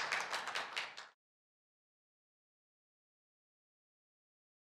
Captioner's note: applause